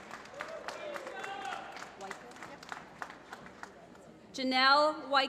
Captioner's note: applause